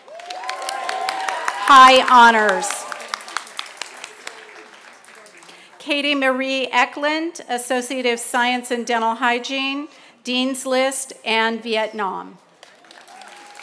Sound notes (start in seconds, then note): 2.2 applause